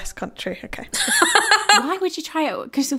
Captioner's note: laughing